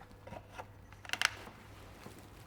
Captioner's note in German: Knarzen